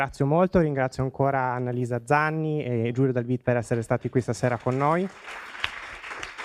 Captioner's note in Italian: Applauso